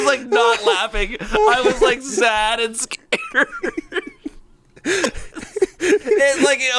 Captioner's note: laughs